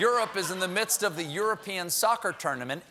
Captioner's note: laughter